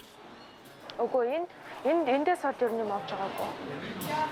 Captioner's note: foreign spoken audio